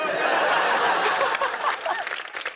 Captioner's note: laughter